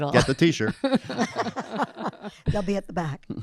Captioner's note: panel laughing